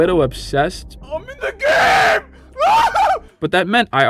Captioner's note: hollering